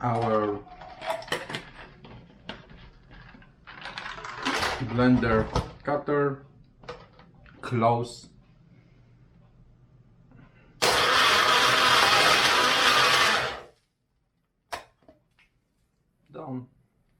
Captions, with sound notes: Our, (plastic clatters) (ice rattles) blender cutter. Close. (blender whizzes) Done.